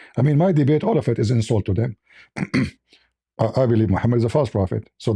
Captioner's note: clears throat